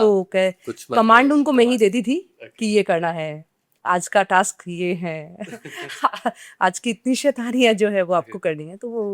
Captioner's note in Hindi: हंसी